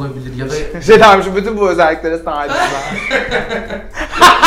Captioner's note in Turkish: gülüşme